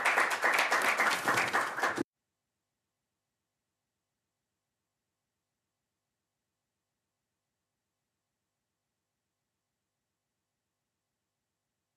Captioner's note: applause